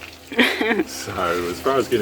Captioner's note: laughs